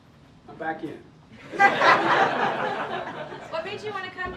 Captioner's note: laughter